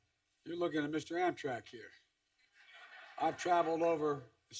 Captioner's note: laughter